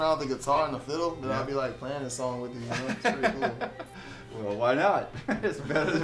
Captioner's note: laughter